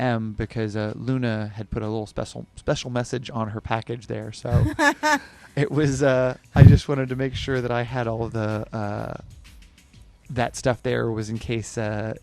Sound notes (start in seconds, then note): 4.5 laughs